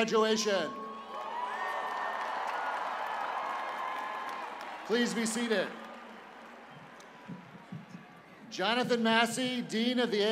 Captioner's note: cheers and applause